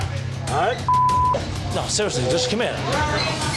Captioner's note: beep